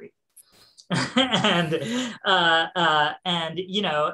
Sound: laughing

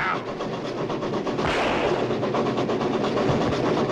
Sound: gun fires

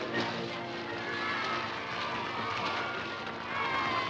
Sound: cheering

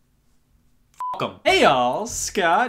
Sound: beep

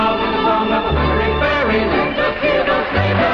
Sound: applause

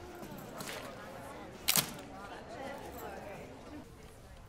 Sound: camera shutter clicks

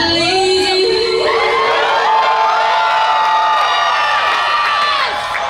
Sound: crowd cheering

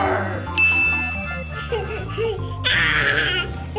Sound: baby giggling

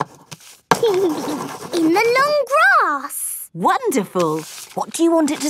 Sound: giggling

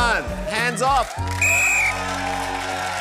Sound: blows whistle

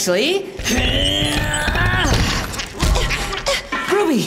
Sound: grunts

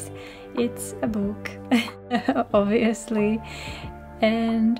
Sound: laughter

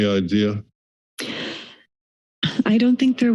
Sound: breathing

